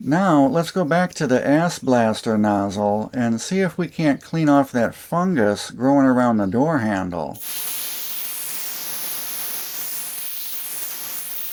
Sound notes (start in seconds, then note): 7.3 hissing sound